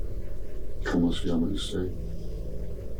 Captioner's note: speaking spanish